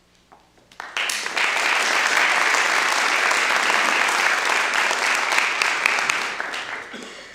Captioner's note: applause